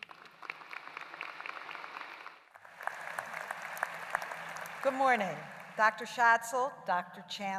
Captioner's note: applause